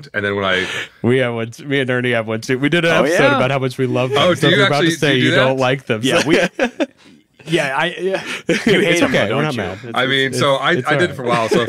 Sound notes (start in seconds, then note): 6.0 laughs